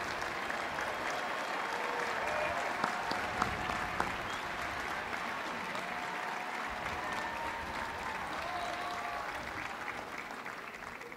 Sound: applause

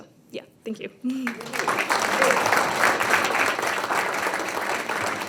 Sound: attendees clapping

